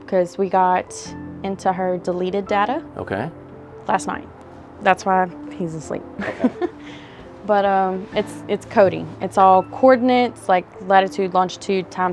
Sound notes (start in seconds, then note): 6.2 chuckles